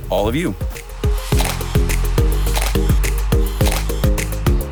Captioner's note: camera clicking